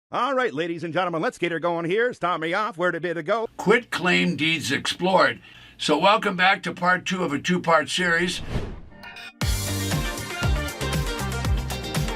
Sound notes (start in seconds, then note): 8.3 whooshing; 8.9 upbeat music